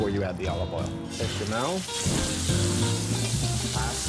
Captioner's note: pan sizzles